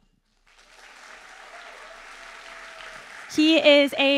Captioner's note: audience applauding